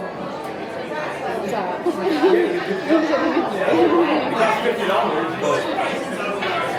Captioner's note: laughter